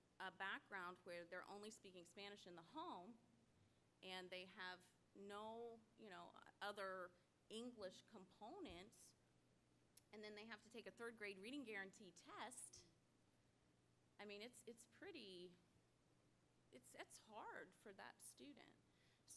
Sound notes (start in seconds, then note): none